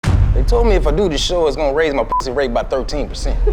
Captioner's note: beep